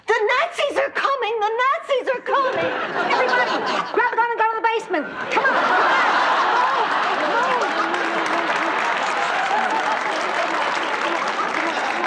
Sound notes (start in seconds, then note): 2.4 audience laughing; 6.7 audience laughing; 8.6 audience applauding